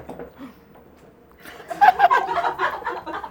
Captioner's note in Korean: 침묵